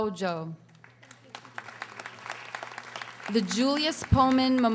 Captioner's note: audience applauding